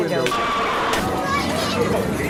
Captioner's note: screams of agony